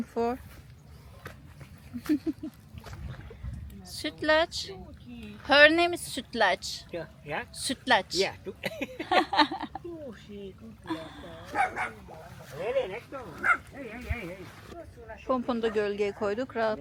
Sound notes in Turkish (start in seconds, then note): 8.6 kahkaha